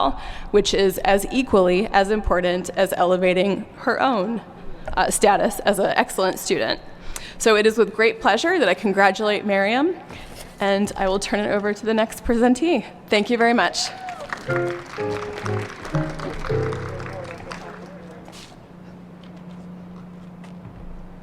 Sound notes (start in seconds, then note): 14.0 applause and ♬♬ piano ♬♬